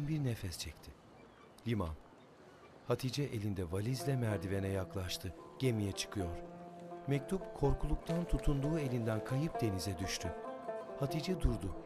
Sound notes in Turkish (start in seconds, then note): 1.0 Martı sesi; 3.7 Müzik - Duygusal